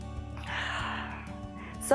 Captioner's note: exhales